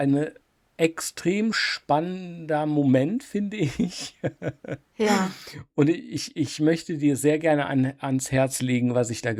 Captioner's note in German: gelächter